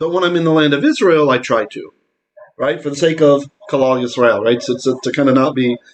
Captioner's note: Hebrew